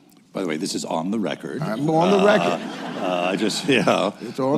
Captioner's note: laughter